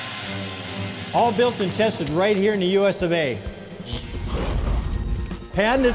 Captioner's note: auger motor; fire